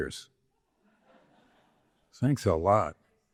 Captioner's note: audience laughing